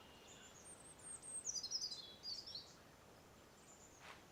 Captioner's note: birds chirping